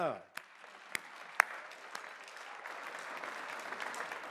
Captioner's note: applause